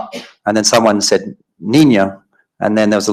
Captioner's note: speaking foreign language